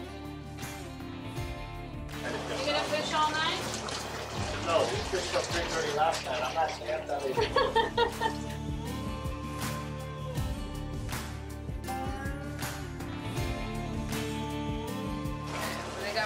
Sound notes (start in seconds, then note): 0.1 slow rock music; 7.3 woman laughs; 10.8 slow rock music